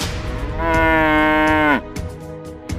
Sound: the cow is mooing

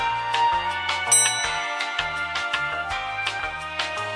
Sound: ding!

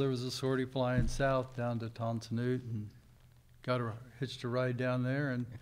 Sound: speaking in a foreign language

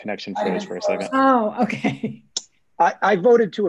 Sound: laughing

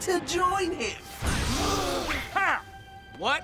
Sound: gasping

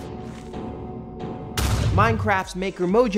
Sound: dramatic music; explosion

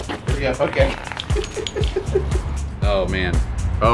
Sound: laughing

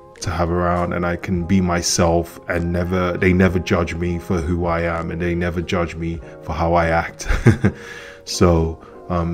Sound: laughs

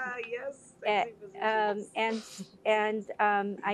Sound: laugh

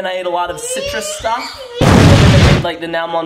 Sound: explosion

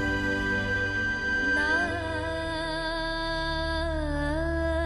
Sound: emotive humming

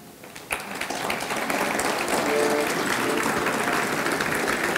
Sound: audience clapping

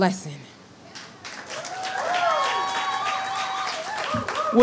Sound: audience cheers and applauds

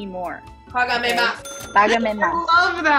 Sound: speaking Spanish

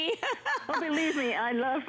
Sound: laughter

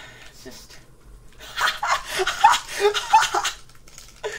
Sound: laughs

